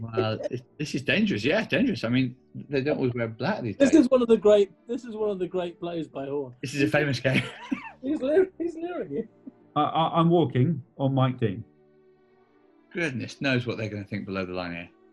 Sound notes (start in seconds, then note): 7.8 laughing